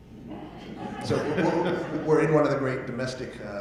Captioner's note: audience laughing